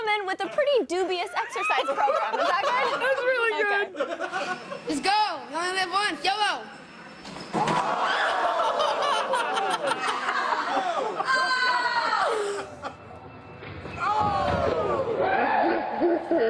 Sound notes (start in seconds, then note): 2.1 laughter